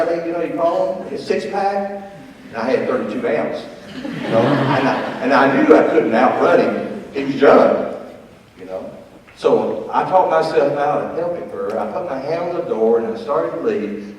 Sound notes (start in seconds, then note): 3.8 audience laughs